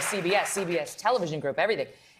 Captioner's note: applause